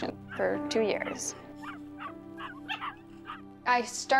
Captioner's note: barking